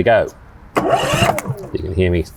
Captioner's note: motor running